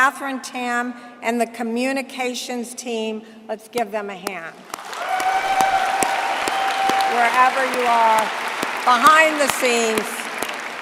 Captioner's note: applause